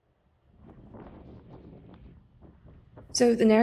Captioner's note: wind blowing